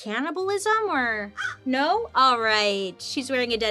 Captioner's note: Joan caws